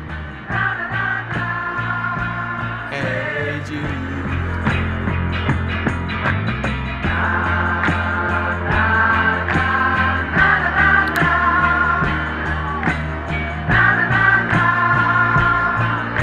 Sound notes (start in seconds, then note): 2.9 singing along; 11.0 snaps along